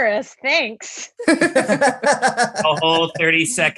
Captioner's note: laughs